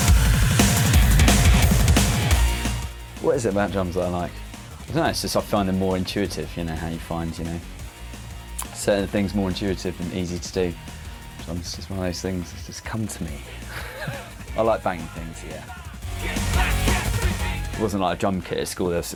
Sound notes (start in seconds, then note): 13.4 laughs